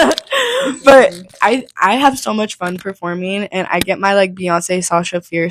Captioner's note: laughing; laughs